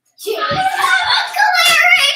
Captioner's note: screaming